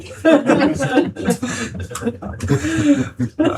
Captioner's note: laughing